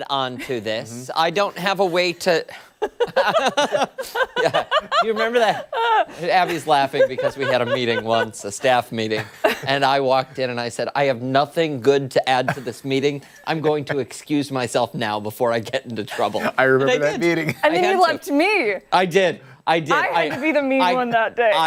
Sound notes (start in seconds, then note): 9.5 laughter